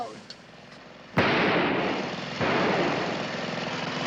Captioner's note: gun firing